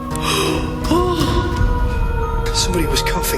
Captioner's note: gasping